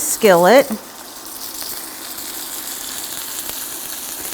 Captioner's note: meat sizzling